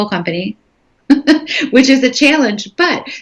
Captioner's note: laughing